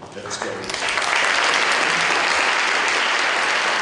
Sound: applause

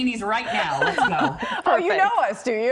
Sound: laughter

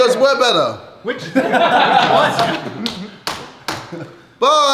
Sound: laughing

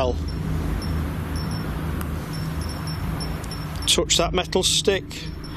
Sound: device beeps

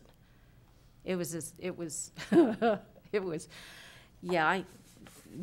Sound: chuckling

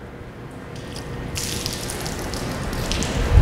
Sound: water splashing

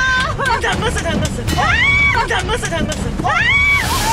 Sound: jolts

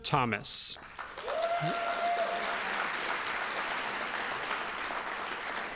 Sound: audience applauding

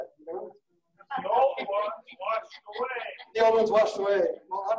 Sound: laughing

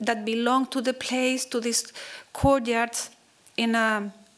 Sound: none

